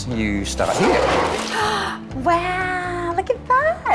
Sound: gasps

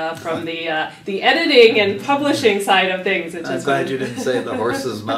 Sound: laugh

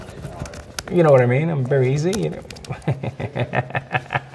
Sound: laughs

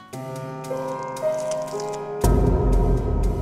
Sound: branches creaking

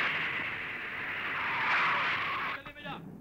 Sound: brakes squeal

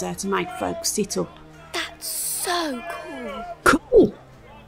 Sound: whispers

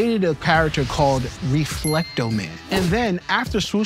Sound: bell dings

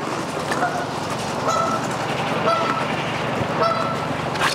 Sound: bird honks

